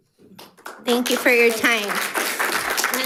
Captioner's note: audience applauds